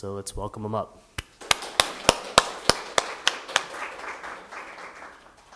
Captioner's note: everyone applauding